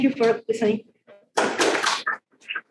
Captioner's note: group claps